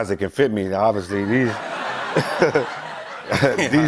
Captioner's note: laughter